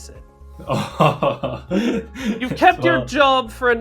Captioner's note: laughs